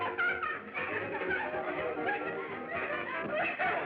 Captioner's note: laughing